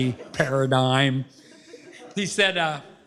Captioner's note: laughter